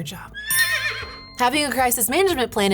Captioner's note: Secretariat neighing